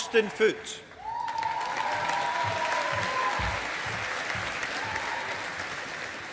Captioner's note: audience applauding